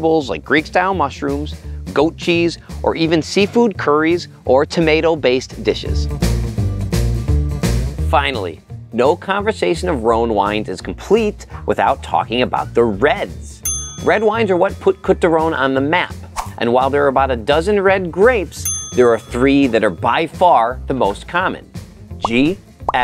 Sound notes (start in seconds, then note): 6.0 upbeat music continues; 13.6 bell dings